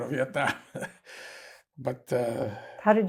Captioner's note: laughing